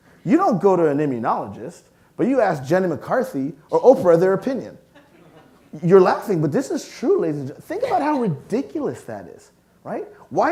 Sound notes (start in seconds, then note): 4.9 audience laughing